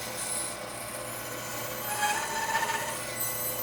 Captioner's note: tool squealing